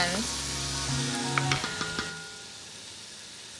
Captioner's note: pot sizzles